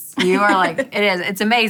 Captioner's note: laughing